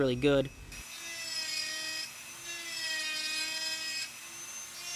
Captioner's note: buzzing and whirring